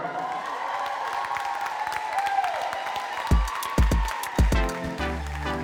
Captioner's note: audience cheering; upbeat music